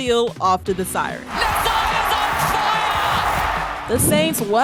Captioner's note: cheering